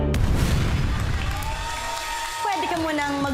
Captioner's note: audience cheers